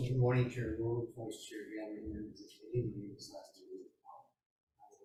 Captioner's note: speaking faintly